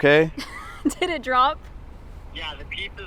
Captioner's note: chuckles